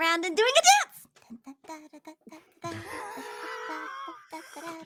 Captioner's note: humming